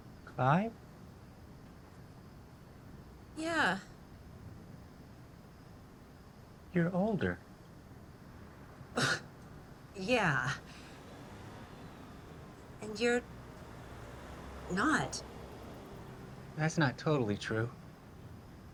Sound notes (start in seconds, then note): 9.3 scoffs